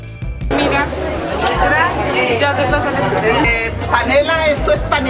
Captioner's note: speaking foreign language